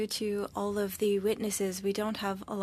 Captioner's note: speaking french